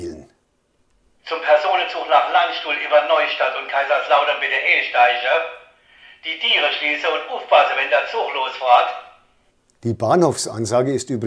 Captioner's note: announcement in Palatinate dialect